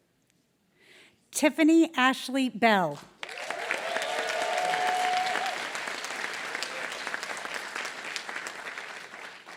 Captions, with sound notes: Tiffany Ashley Bell. [APPLAUSE] >> [APPLAUSE]